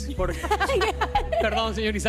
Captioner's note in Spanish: risas